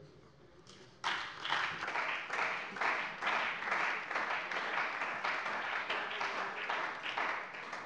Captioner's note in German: Beifall bei der CDU und dem BÜNDNIS 90/DIE GRÜNEN